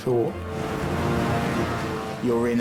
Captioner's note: boat engine revving